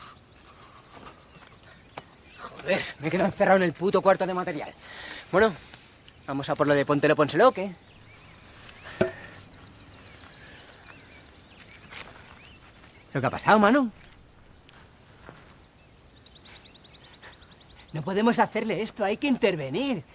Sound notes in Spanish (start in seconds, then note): 8.4 Respiración fuerte